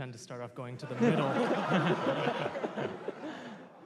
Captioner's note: laughter